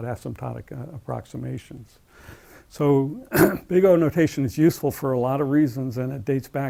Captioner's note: cough